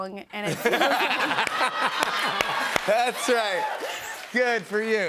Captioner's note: laughter